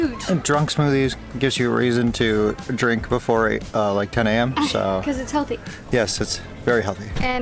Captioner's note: laughter